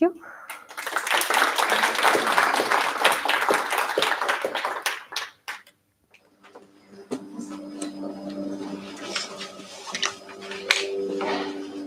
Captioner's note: applause